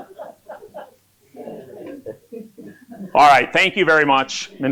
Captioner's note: laughter